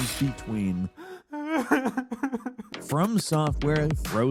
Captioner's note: character crying